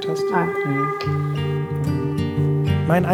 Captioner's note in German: Dröhnen